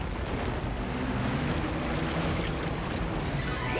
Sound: rumbling

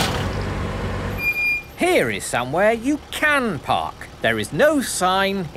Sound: car engine starting; breaks squeaking

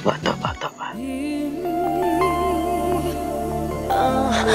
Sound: background humming

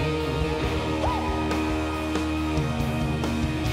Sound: yelps

